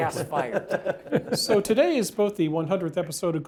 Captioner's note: laugh